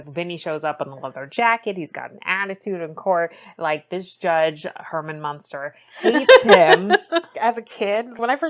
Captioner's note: laughs